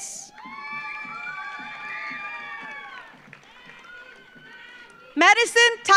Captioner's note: audience cheers; audience applauds